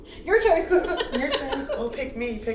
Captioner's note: laughs